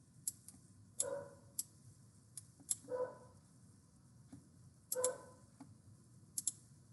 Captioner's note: dog barking